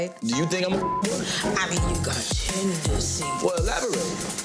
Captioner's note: overlapping chatter